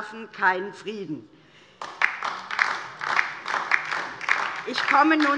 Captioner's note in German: Beifall DIE LINKE